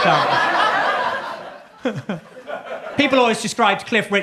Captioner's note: audience laughs